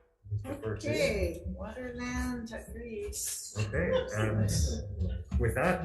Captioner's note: laughs